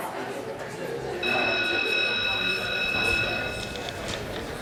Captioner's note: school bell rings